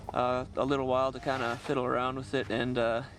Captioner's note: voiceover